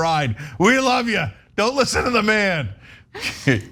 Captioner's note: laugh